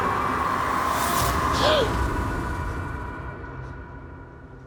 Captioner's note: Carl gasping